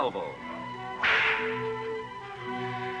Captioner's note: cracking whip; cinematic classical music